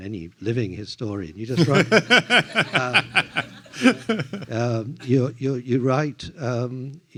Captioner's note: laughs